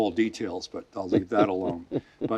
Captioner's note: laughing